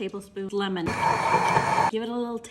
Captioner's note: whirrrring